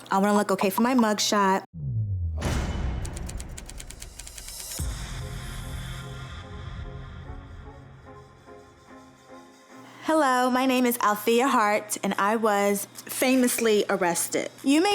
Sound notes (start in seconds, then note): 3.1 typing; 5.1 pulsing music